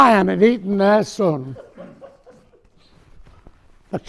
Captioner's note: audience member laughing